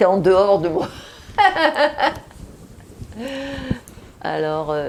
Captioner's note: laughing